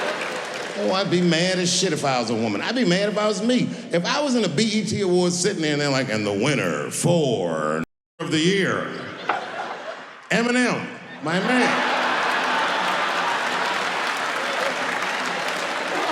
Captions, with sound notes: I be mad as shit if I was a woman, I'd be mad about me. If I was in the bet awards sitting in there, like and the winner for the year, Eminem, my man. (audience clapping)